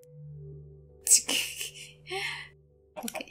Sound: laughter

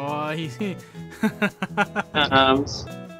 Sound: laughter

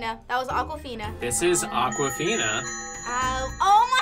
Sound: bells tinkle

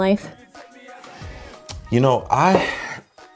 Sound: sighs

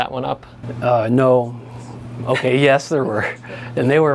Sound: laughs

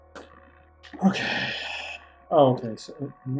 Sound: sighing

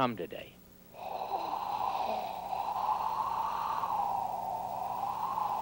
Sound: imitates wind

